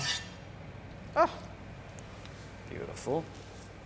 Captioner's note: exclaims